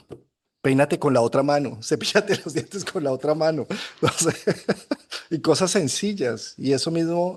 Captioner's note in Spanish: risas